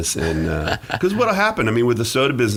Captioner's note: laughing